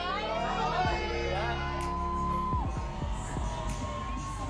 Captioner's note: crowd cheering, music playing